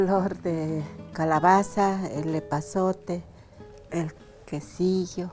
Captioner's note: speaking in foreign language